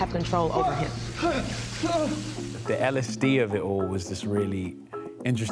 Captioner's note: panicked breathing